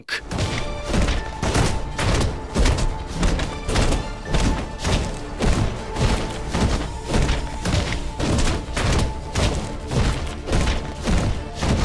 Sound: in-game audio

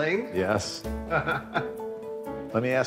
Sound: laughs

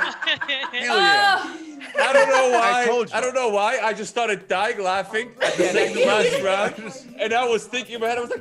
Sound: laugh

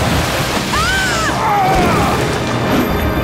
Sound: grunting

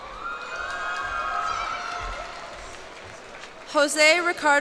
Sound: cheers and applause

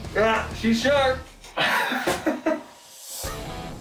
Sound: laughs

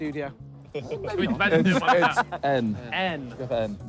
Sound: all laughing

